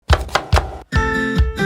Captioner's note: knife chopping; upbeat cheerful music